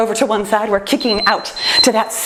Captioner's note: timer beeps